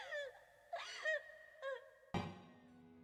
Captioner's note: sobbing